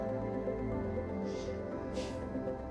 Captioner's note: Max exhales